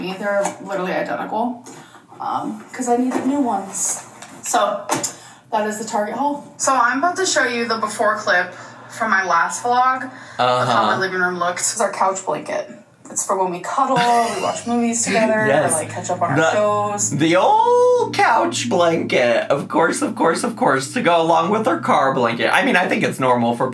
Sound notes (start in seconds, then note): 13.9 laughing